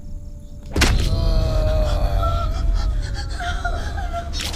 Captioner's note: thudding; Bolo groans